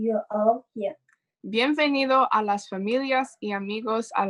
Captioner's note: speaking in Spanish